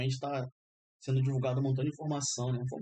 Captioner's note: thank you, in Arabic